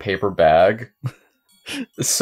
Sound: chuckles

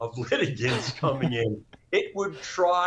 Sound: laugh

